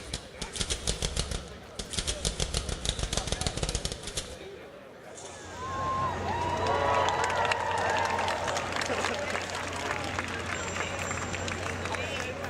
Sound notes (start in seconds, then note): 6.2 applause